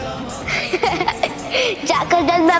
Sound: laughs

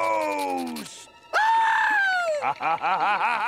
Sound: screaming; laughing

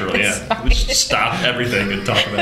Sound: laughter

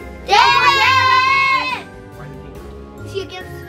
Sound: all yelling

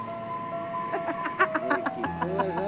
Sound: laughter

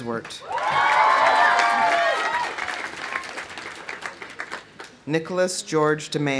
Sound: audience applauding; audience cheering

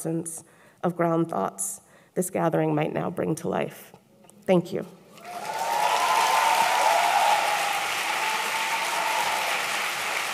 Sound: applause

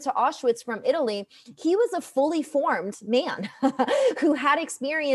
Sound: chuckles

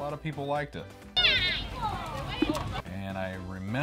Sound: crazy lady warbles

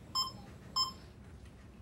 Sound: beep, beep

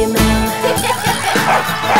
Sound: children laughing; dog barking

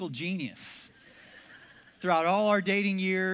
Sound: congregation laughs

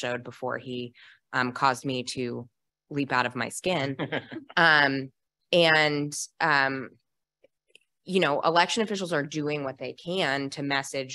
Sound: laughter

